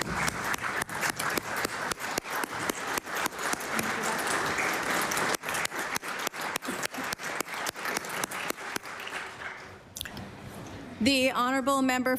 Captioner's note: applause